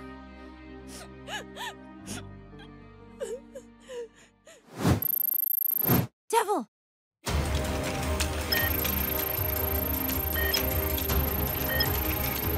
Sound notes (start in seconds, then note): 0.1 breathes heavily; 3.1 sobs; 8.5 beeping